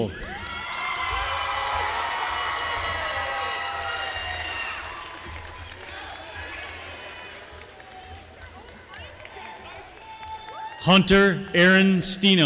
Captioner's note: applause